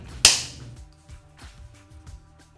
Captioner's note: clap